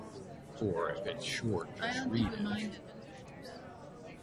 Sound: voiceover

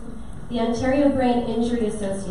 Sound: none

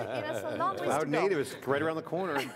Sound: laughter

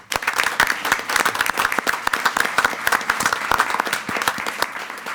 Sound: attendees applauding

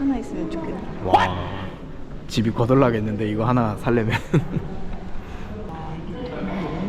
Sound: making an eerie sound ㅋㅋ

